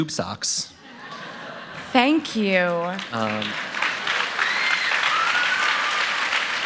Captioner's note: laughter; applause